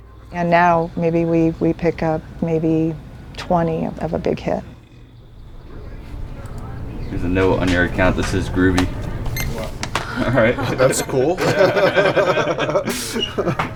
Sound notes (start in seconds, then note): 8.9 scanner beeping; 9.8 laughing; 10.0 woman laughing